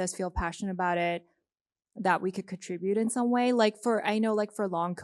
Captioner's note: none